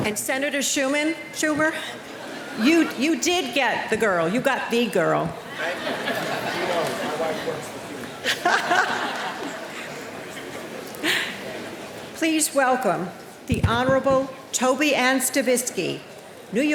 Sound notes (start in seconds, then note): 7.6 speaking off microphone; 8.5 laughing